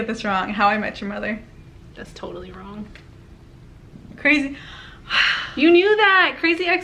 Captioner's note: sighs